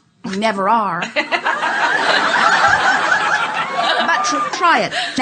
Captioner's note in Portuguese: A platéia ri